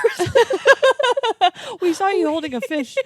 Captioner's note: girls laughing